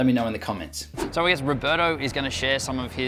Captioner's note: whooshing